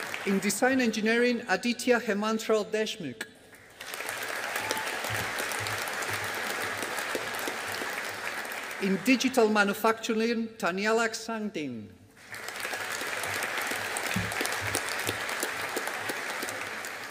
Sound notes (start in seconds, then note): 3.5 audience applauding; 12.2 audience applauding